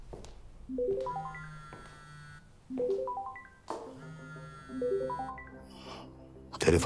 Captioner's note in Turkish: Telefon Çalıyor